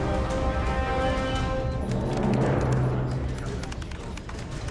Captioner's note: beeping; keys clacking